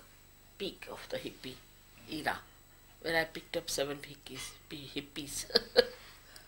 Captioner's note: shri mataji laughs